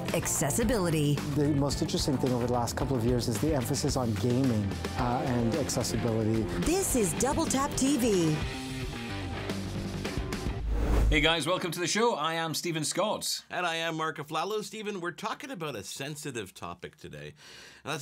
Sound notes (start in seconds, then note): 8.9 upbeat music; 10.6 air whooshing